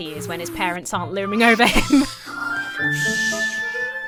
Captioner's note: laughs; whooshes